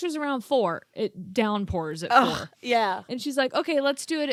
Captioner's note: grunts